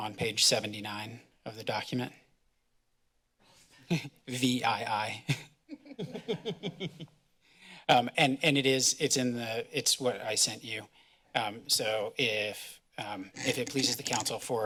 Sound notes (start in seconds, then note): 5.0 laughs; 5.6 laughter